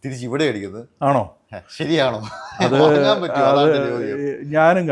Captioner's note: laughter